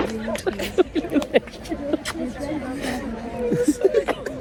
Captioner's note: background chatter